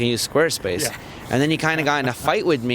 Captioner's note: laughs